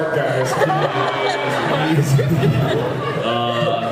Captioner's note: laughs